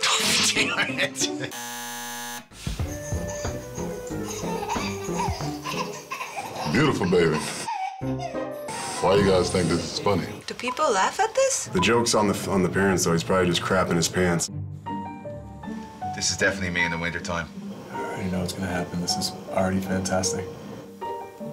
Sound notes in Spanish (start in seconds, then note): 0.6 Risas; 1.5 zumbador; 3.1 Bebé que ríe